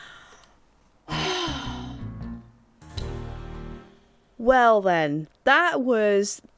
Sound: let's out a big sigh of relief

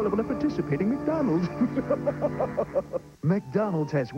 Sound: maniacal Laughter

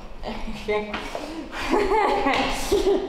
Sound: nervously laughing

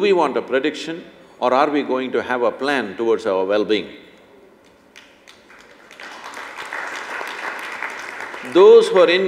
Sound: applause

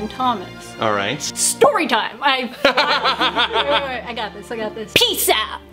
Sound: laughs

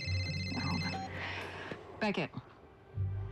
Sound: cell phone rings; beeps

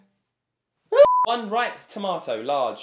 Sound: exclaiming; beep

